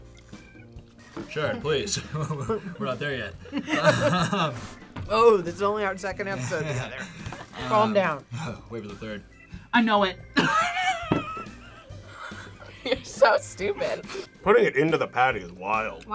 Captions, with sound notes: - Sharon, please. (chuckles) We're not there yet. - (both chuckle) - Oh, this is only our second episode together. Calm down. - Wait till the third. - I know it. (laughs) - You're so stupid. - Putting it into the patty is wild.